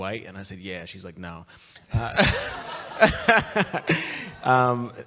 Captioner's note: people laughing